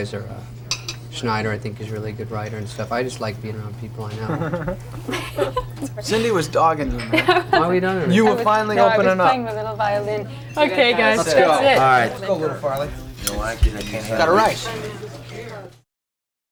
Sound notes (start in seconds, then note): 4.2 laughs